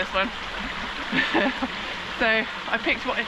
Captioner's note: laughs